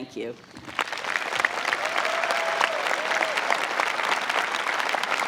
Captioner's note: crowd applauding